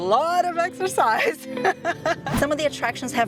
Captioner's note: laughs